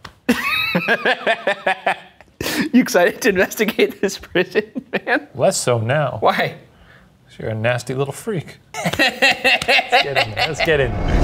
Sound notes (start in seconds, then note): 0.3 laughing; 8.7 both laugh